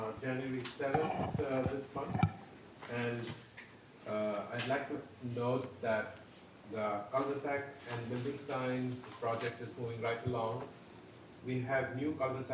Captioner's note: speaking off microphone